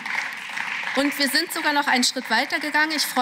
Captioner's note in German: Beifall